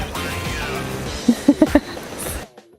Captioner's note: laughs; gasps